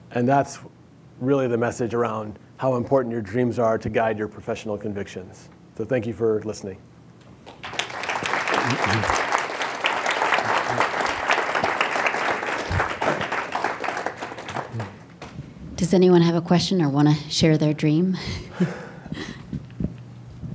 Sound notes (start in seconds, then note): 7.4 applause